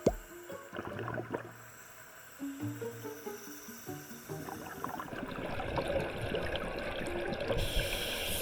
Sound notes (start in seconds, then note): 5.5 slowly releasing the remaining breath while searching for the regulator